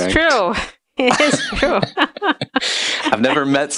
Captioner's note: laughing